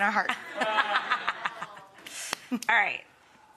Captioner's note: woman laughing